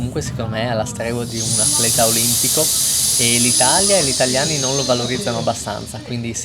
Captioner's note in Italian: sbuffare